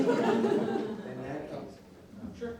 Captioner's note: audience laughing